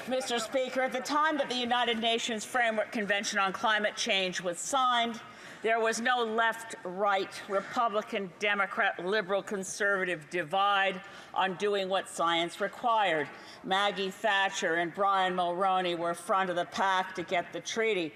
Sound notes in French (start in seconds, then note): 5.9 voix de l'interprète